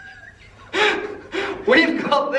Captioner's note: chuckle